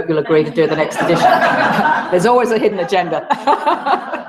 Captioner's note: laugh